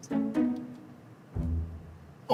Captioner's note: click